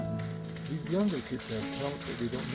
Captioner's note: applause